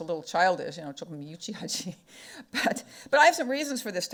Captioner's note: speaking foreign language